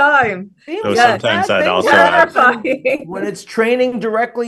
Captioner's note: group chattering